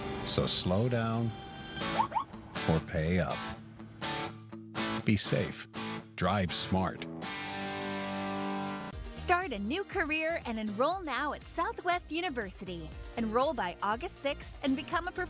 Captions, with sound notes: So slow down. [siren chirps] Or pay up.